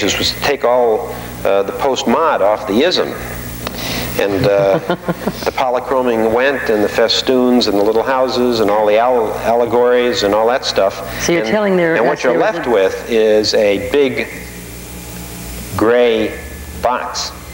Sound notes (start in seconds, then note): 4.2 laughing